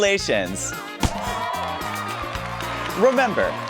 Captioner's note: confetti cannons pop; cheering continues